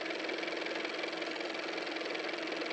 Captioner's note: car motor